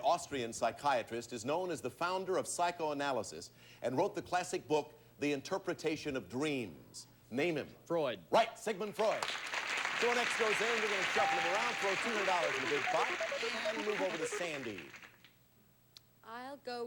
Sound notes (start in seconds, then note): 9.0 audience applauding